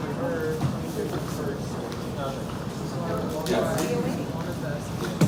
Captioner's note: people chattering